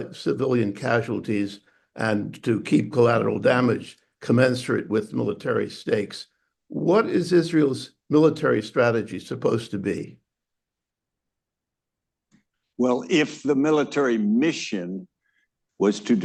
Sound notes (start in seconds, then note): none